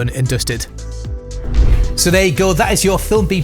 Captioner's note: air whooshes